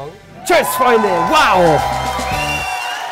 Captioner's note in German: Jubel